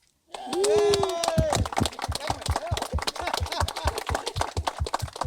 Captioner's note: audience applauding and cheering